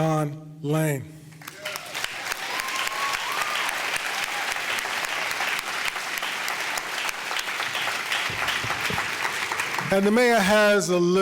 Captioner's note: audience applause